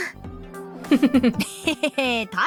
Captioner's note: chuckles